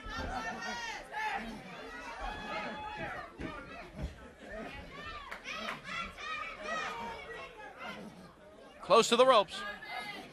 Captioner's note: crowd chatter